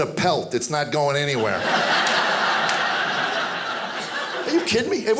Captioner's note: audience laughing